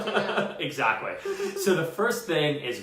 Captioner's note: laughs